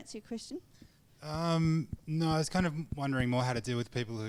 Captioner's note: voiceover